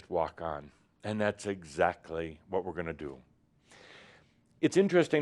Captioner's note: none